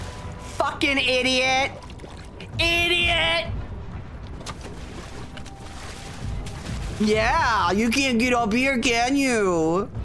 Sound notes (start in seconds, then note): 3.8 splashing